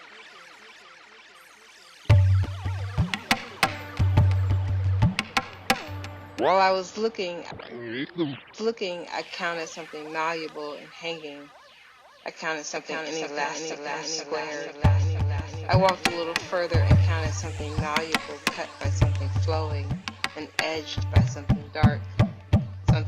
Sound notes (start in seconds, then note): 3.0 tapping and drumming music; 8.0 tape rewinds; 15.5 tapping and drumming music